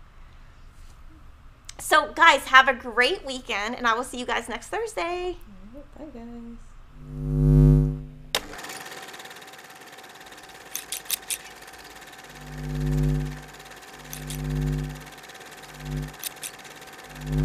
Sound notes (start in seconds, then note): 6.9 electronic humming; 9.7 camera reeling; 10.7 scissors scraping; 11.8 electronic humming; 14.2 scissors chopping